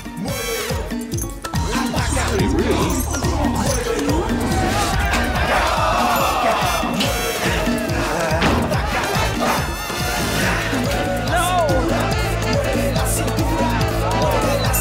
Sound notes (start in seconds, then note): 0.3 intense dance music; 5.9 bell dings; 9.4 grunts; 11.9 intense dance music